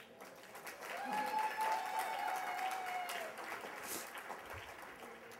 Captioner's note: applause